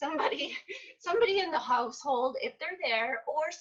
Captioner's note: laughs